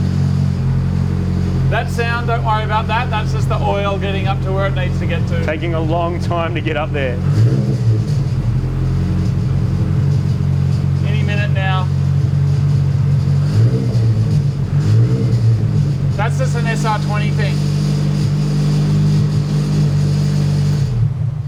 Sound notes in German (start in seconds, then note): 8.1 Motor kommt auf touren und rasselt; 13.0 Motor tourt und rasselt noch immer; 19.2 Motor rasselt immer lauter